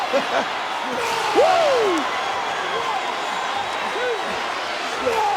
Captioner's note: chuckling; audience cheering